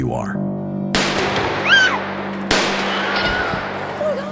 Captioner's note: gunshots, screams